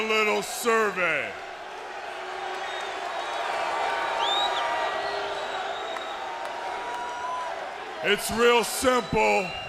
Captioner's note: crowd cheering